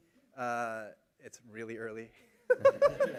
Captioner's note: laughter